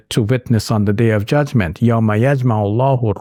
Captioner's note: speaking in Arabic